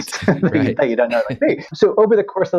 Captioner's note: chuckles